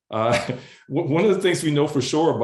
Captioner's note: laughs